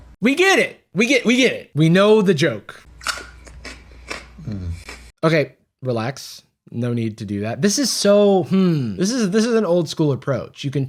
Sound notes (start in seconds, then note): 3.0 crunching